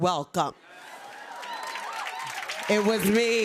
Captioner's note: applause